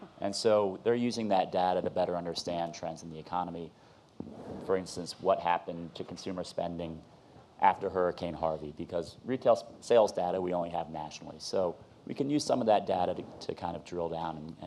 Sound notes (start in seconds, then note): none